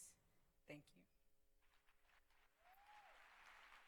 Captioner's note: applause